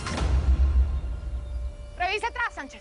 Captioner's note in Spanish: Hablan al unísono